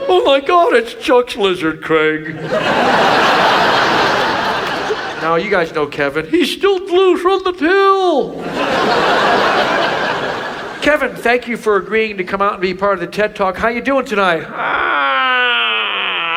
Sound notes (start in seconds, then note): 2.2 audience laughs; 8.3 audience laughs